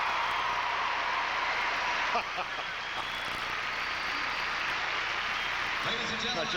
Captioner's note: applause